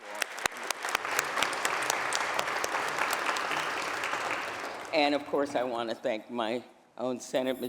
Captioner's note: applause